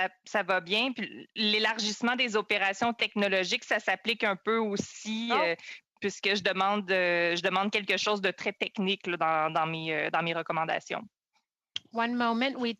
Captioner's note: speaking French